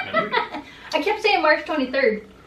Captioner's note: laughter